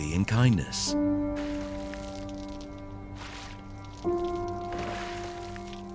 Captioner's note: paint splashing and dripping